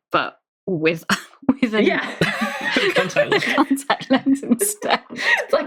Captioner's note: laughing